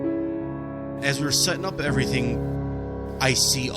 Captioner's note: voice over, male